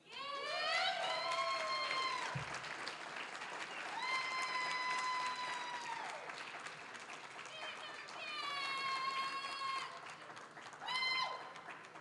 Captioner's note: applause, cheering